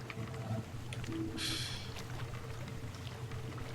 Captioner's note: laughs softly